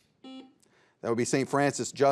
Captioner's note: buzzer buzzes